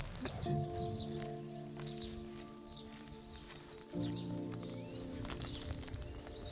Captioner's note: birds chirping; gentle music